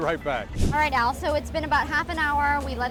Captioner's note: air whooshing